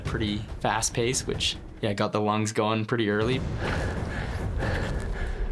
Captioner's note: breathing heavy